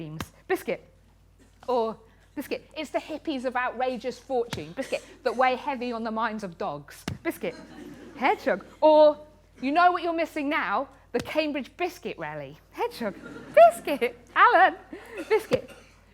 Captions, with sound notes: Biscuit. Or, biscuit, "It's the hippies of outrageous fortune, biscuit, that weigh heavy on the minds of dogs". (LAUGHTER) Biscuit. Hedgehog. Or, "You know what you are missing now? "The Cambridge biscuit rally". Hedgehog. Biscuit. Alan. Biscuit.